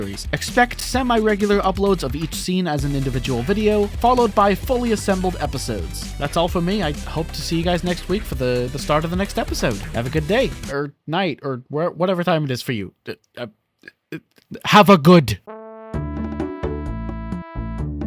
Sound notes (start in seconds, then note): 12.9 assorted stammering noises